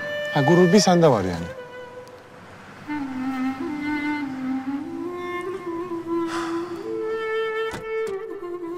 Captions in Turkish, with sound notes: Ha, gurur bir sende var yani? (Nefes sesi) (Kapı açılma sesi)